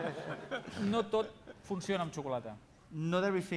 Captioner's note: non-english speech